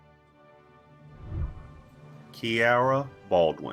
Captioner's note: whooshing